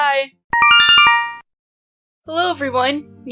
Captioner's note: Yume Nikki instructions sound